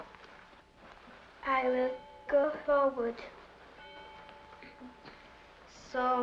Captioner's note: bell rings